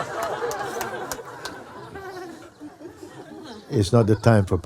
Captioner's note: applause and laughter; laughter